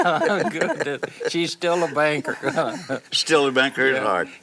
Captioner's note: laughs